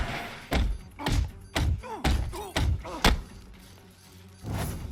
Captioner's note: Riddler groaning